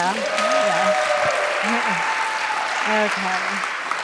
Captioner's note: cheers and applause